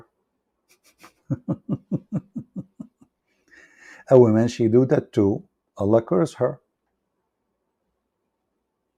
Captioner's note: Ketawa